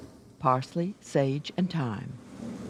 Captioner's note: voiceover